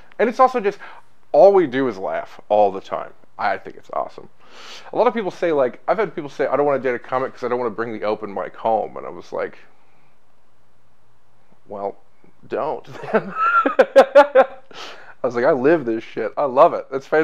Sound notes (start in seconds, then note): 13.2 laughs